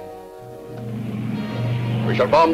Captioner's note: plane engines revving